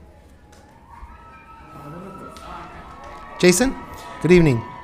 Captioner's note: loud cheering